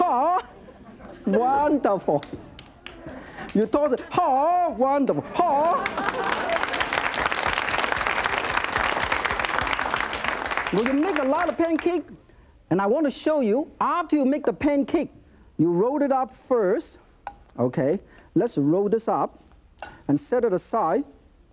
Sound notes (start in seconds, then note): 5.5 audience applauds